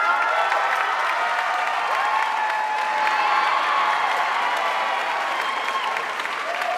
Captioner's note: audience cheering and applauding